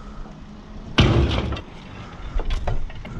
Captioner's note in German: kraaach